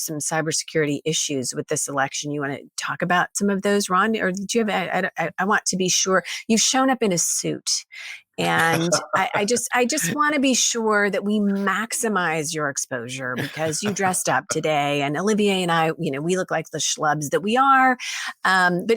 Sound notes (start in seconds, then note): 8.4 laughing